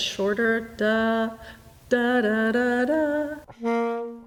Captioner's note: humming